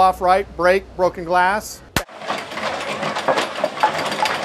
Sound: rattling, shrieking

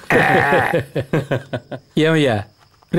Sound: laughs

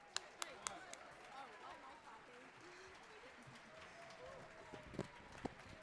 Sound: audience applauding

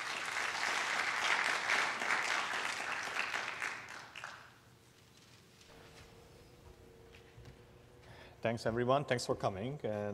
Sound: applause

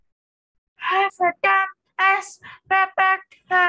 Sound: non-english speech

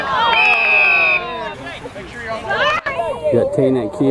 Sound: whistle blows

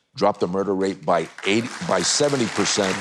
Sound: audience cheering

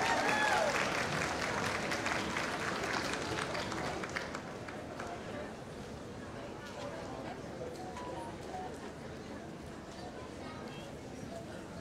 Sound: applause

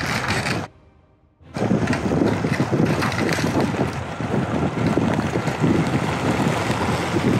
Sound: gravel rustling; wind whooshing; gravel rustling

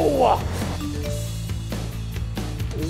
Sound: text chime

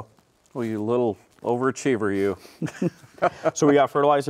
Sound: laughing

